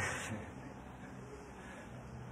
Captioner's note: laughs